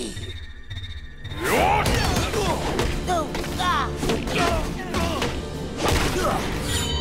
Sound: grunting

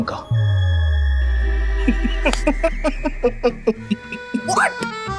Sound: chuckling

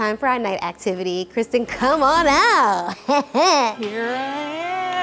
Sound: laughs

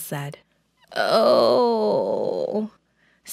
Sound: sleepy groan

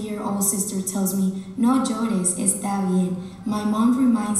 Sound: speaking Spanish

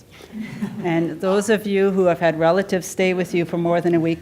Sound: laughter

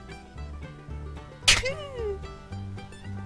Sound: Billy sneezing

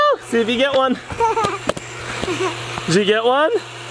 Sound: laughter

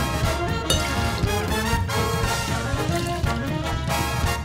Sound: liquid pouring; cup clanking; liquid pouring

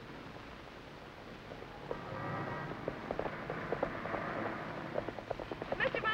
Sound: horse trotting

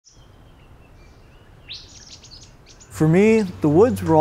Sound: birds chirping

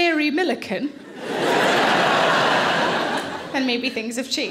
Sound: audience laughing

